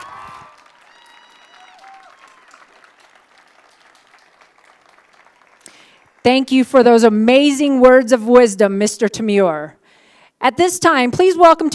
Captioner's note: applause